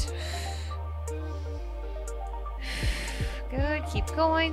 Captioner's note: exhaling